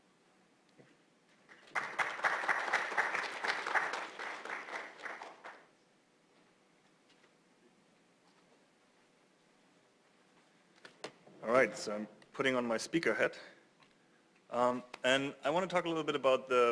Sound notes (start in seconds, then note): 1.4 applause